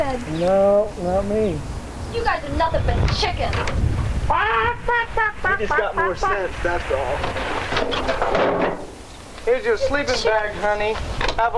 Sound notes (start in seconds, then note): 4.2 driver cackling